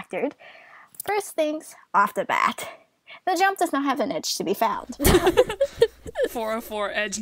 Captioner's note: hosts laugh